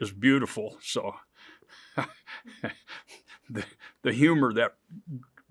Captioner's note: chuckles